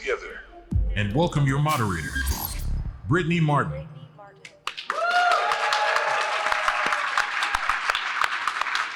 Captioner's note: applause